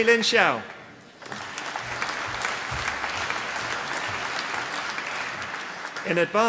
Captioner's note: applause